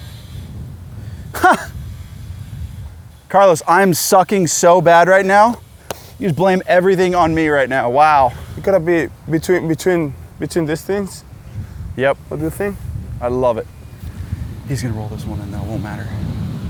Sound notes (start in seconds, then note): 1.3 chuckles